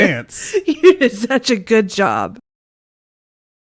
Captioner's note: laughing